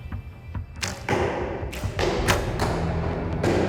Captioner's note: arrows flying and striking target